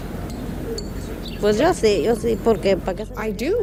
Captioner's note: speaking in Spanish